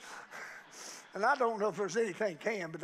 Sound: congregation laughing

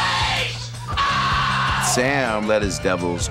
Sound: screaming

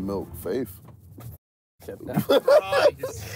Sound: laughing

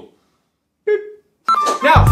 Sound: beeps

